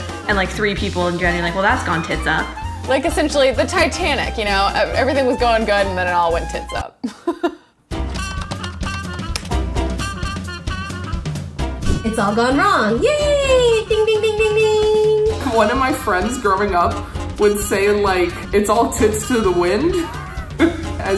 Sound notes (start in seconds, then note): 7.0 laughs; 8.2 upbeat music